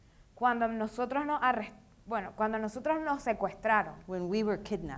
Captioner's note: speaking in foreign language